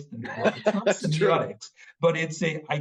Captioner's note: laughing